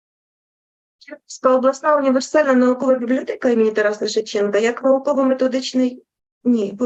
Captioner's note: foreign Language Spoken